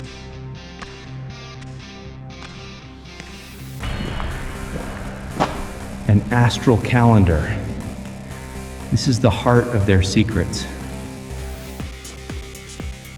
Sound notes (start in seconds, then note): 3.8 footsteps